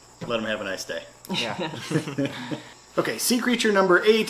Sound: family chuckles

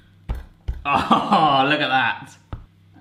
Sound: laughs

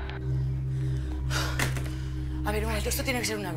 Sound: sighs

